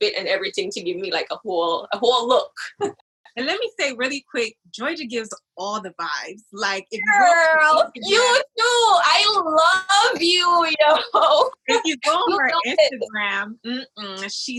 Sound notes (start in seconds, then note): 9.9 laughs